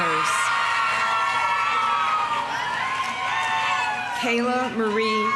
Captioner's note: audience applauding; audience cheering